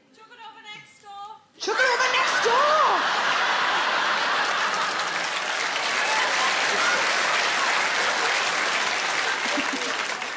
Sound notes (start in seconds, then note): 3.0 audience laughing; 4.1 audience clapping